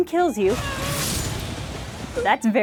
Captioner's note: a splatty spear-strike and a dying groan